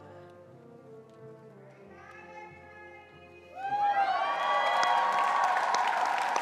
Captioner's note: attendees cheering and applauding